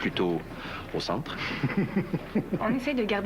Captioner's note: Rires